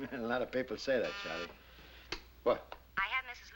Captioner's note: buzzing